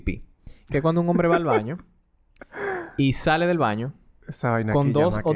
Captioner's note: laughs